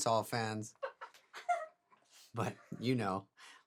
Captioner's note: woman laughing